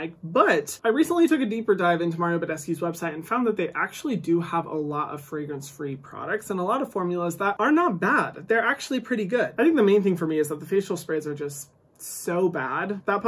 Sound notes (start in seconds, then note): none